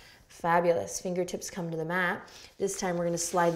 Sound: none

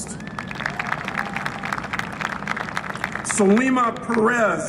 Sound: applause and cheering

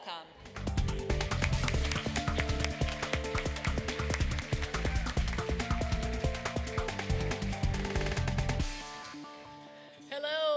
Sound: applause

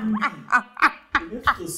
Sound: laughter

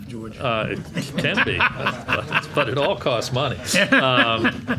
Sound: laughing

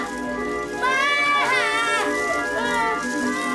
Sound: yells; wails; whimpers

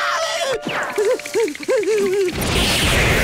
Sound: screaming; whimpering

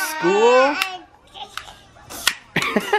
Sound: laughs

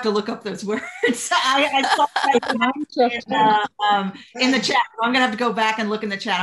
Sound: laughter

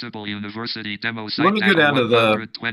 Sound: jaws speaking in background

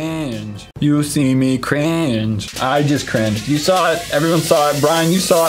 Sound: autotune

